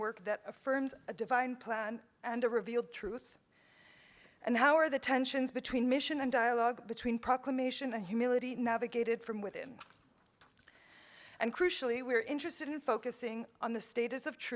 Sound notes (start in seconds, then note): none